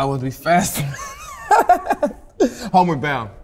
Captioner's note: laughing